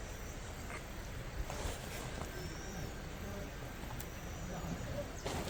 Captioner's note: huff! Ha! Huff!